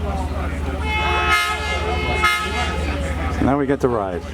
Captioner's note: 1502's horn sounds